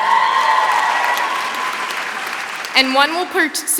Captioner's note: applause